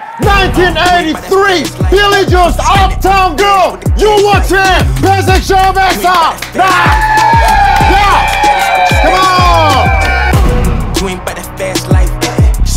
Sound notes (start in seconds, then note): 6.6 sound of cheering